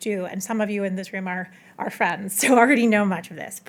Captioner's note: none